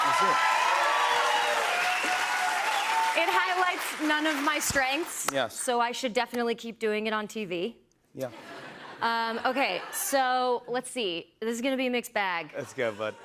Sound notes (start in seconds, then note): 0.0 cheers and applause; 8.3 laughter